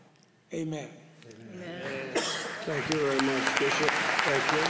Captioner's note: applause